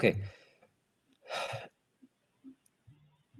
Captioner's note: sighs